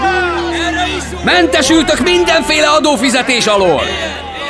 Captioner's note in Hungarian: Éljenzés